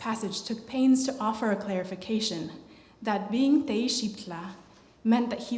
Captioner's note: non-english